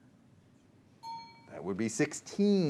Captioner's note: ding